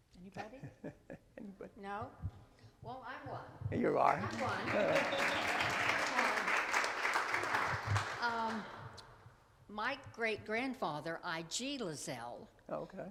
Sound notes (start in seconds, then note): 0.4 chuckles; 4.0 attendees applaud